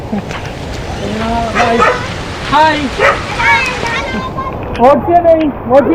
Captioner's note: dog barking